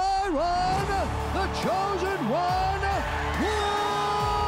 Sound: cheering

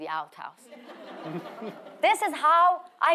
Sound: audience laughing

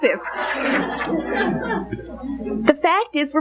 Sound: congregation laughing

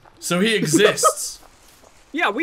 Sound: laughs

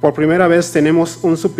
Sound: speaking foreign language

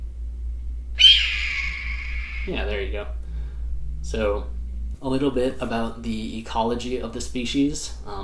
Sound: red-tailed hawk call plays

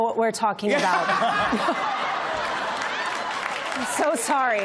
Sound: laughter

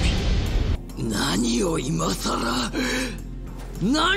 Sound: speaking Japanese

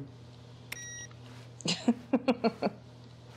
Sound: laughter

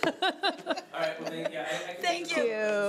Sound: laughing

